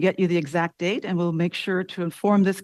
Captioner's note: speaking french